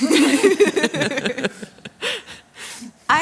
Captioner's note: laughter